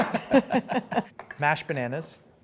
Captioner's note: laughs